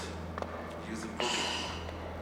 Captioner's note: sighs